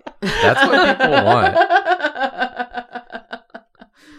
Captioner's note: laughs